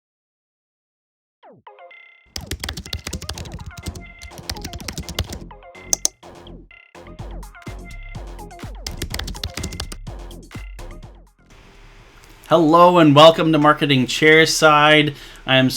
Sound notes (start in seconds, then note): 2.3 keyboard clacking; 2.4 upbeat music; 5.9 mouse clicking; 7.4 upbeat music; 8.7 keyboard clacking; 10.8 upbeat music